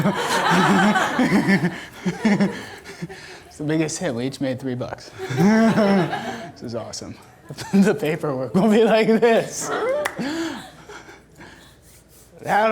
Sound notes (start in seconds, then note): 0.0 audience laughter; 5.1 laughing; 9.2 laughs